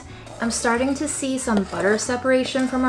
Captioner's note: spoon scraping